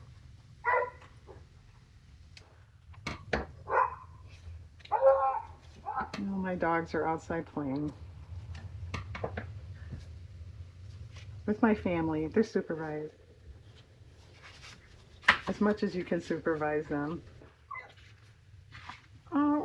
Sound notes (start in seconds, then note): 4.9 dog barks